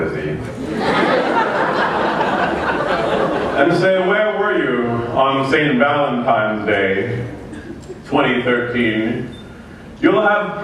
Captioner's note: laughter